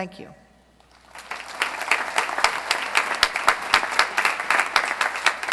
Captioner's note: applause